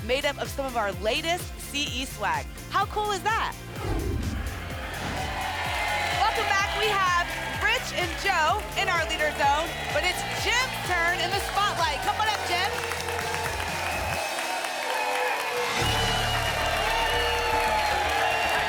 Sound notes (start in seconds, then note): 3.7 whoosh; 5.0 applause and cheering; 14.2 applause and cheering cont